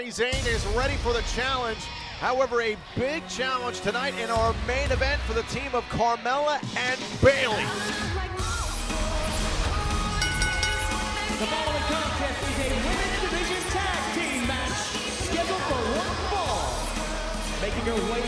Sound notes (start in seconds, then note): 10.1 bell ringing